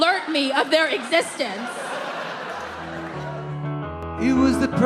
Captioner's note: audience laughs